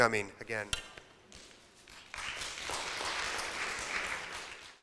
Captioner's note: audience applauds